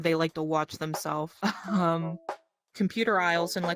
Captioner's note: laughs